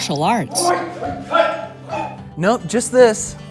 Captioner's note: yelling during martial arts move